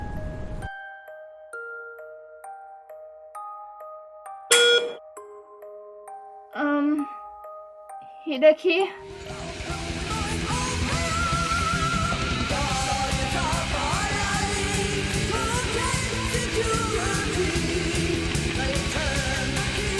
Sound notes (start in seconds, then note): 4.5 beep